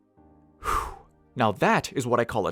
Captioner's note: whew